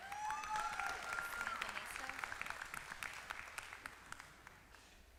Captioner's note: applause